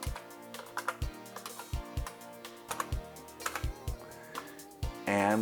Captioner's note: IBM Model M clicky keyboard typing